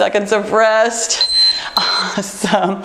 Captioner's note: timer beeping